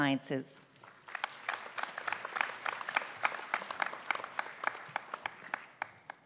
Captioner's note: applause